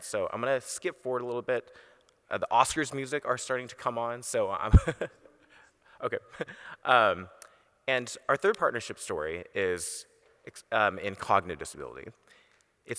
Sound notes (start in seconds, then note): 6.0 laughs